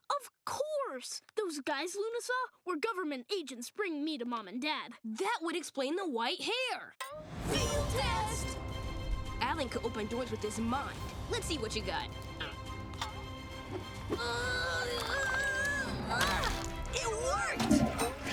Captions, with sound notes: Of course, those guys Luna saw were government agents bringing me to Mom and Dad. That would explain the white hair. Field test! Alan could open doors with his mind. Let's see what you got. [grunting] It worked!